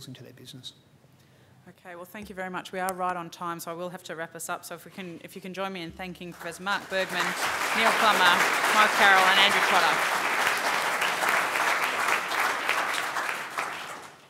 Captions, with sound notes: into their business. OK, well, thank you very much. We are right on time, so I will have to wrap this up. So if you can join me in thanking Matt Bergman, Neil Plummer, Mike Carroll, and Andy Trotter. [APPLAUSE]